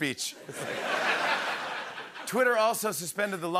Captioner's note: laughter